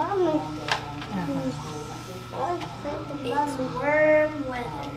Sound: toddler babbles

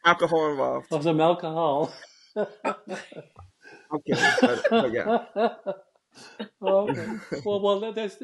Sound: laughs

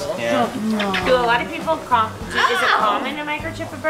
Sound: lip smacking

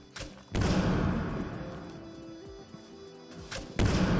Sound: gun firing

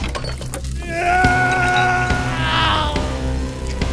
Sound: shelves breaking; sizzling; screaming in agony

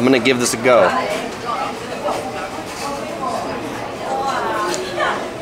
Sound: patrons chattering

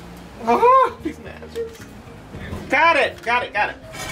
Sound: yells

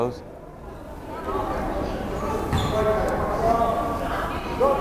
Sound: crowd chattering

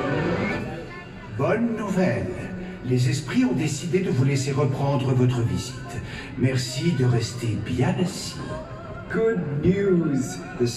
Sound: in French then English

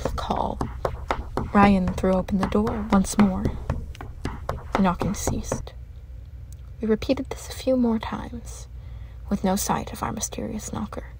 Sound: knocking ends

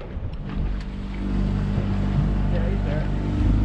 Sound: boat engine running

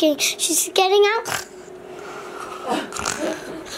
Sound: person snoring; person laughing

